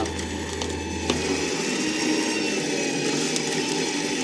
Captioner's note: trailer whirring